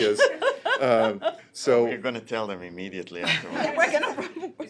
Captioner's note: laughter; laughter